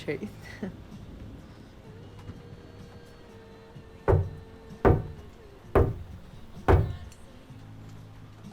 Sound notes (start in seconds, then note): 1.6 tapping